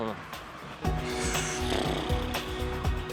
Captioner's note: exhales